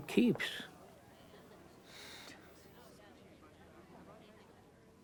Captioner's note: crowd chatting